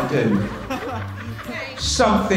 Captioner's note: class laughs